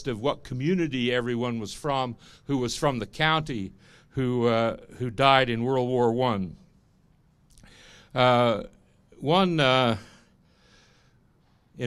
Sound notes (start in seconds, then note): none